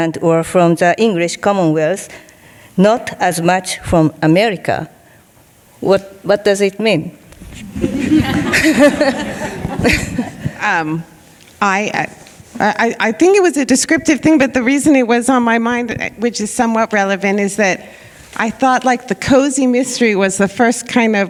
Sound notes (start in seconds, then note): 7.6 audience laughing